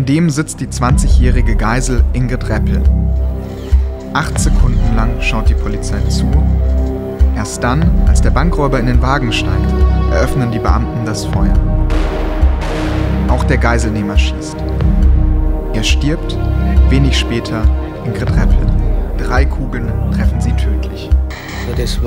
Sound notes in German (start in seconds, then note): 11.8 Schüsse; 18.6 Spannungsvolle Musik